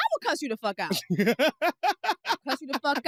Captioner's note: laughs